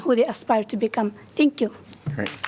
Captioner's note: applause